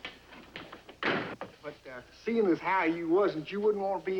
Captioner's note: door Slams